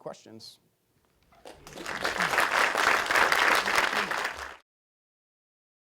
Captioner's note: applause